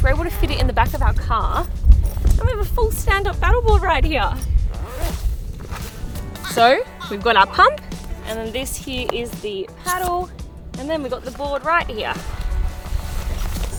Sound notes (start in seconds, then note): 1.6 zipping; 4.9 zipping; 6.4 baby giggling